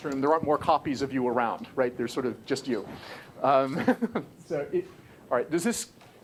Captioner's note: laugh